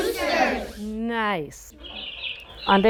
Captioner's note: birds chirping